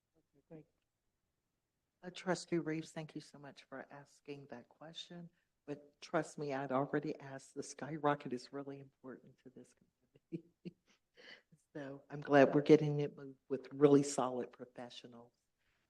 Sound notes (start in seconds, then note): 11.1 chuckle